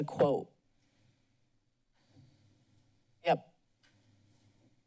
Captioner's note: silence